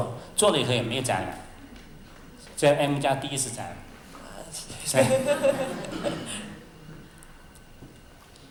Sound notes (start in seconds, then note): 4.8 laughter